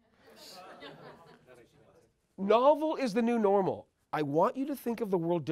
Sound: laugh

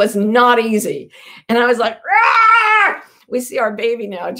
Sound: screams

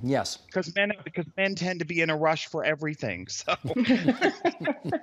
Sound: laughter

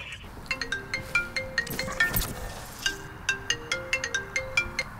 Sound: phone rings

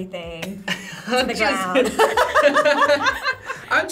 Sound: both laugh

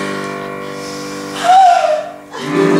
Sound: whimper

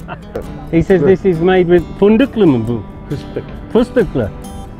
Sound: speaks Turkish

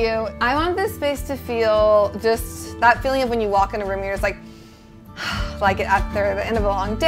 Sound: sighs

